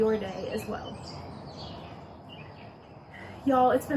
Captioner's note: birds chirping